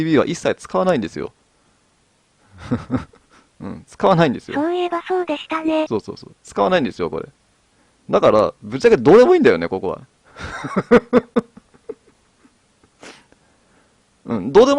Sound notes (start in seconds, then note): 2.5 laughs; 10.3 laughter